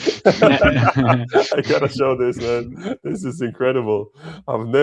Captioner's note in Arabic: ضحك